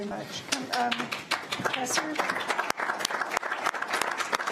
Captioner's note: applause